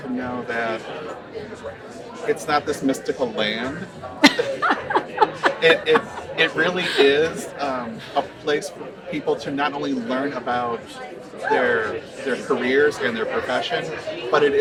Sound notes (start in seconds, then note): 4.2 laughing